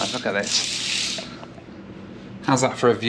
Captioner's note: curtains rattle